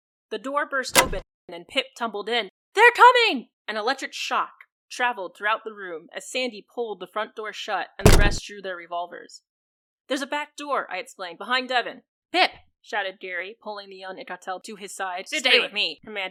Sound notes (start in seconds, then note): 8.0 door shut